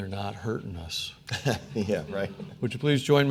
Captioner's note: chuckles